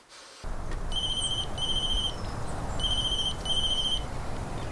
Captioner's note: phone ringing